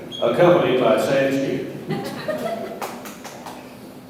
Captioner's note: audience laughs